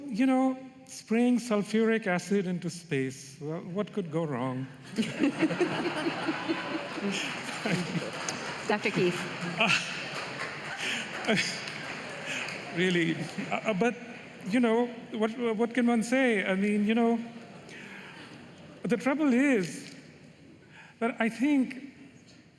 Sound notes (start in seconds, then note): 7.9 laughter